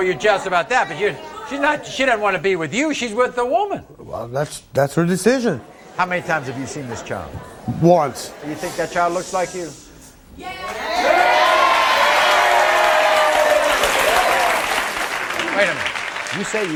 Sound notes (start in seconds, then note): 10.9 audience applauding; 12.0 audience cheering